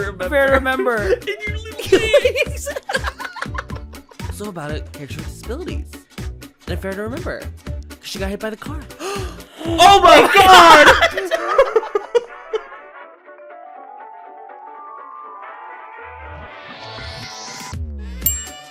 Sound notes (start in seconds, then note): 0.7 giggling; 8.9 gasp